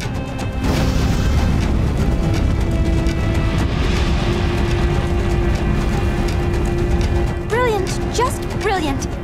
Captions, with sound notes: [flames roar] Brilliant. Just brilliant.